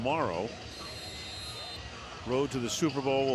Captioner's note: whistles